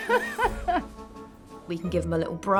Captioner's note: laughs